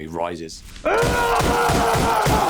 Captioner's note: screaming